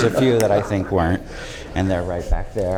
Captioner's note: laughter